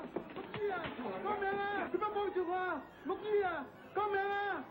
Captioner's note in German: spricht eine fremdsprache